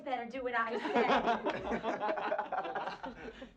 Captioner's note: laughter